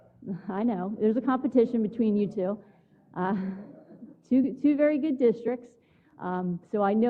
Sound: laugh

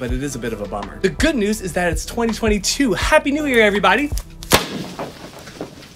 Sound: explosion

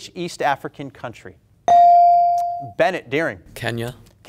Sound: buzzer pings

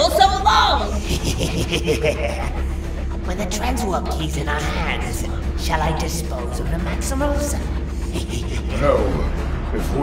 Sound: laughs

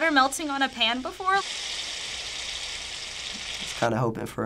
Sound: butter sizzling

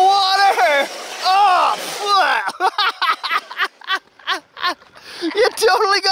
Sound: dad makes a noise like he got water in his mouth; laughs

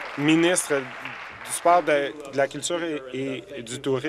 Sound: applause

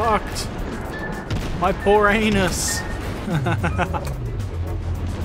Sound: laughter

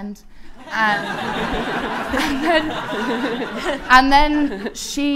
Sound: audience laughing

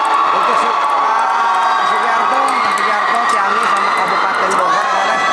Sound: applause

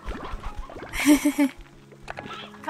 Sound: laughter

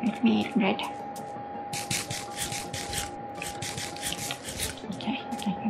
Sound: crunching sounds

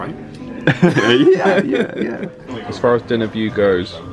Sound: they laugh

